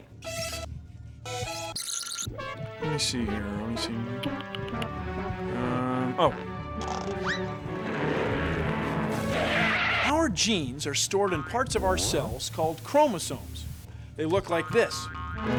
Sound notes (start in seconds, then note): 0.2 accordion music plays; 8.4 tires screech